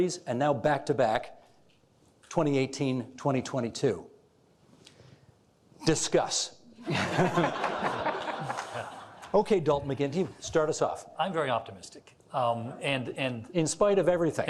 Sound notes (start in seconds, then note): 6.8 all laughing